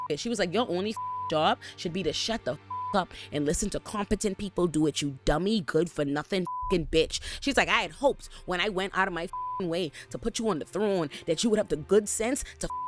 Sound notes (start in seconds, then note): 0.9 beep; 6.4 beep; 9.2 beep